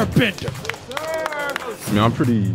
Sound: hands clapping; guys cheering

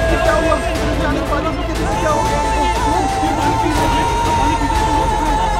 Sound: indistinct chatter

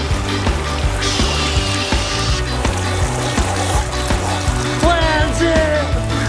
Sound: dad mimicking fingerboard whooshing

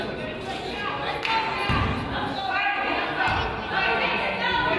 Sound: coaches yell

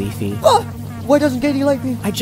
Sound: gasps

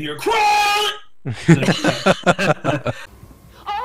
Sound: laughing

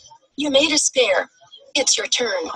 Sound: voiceover

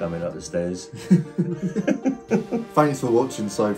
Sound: both laughing

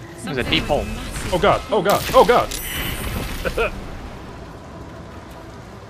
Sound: cough

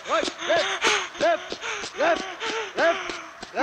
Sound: panting

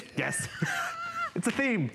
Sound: laughter

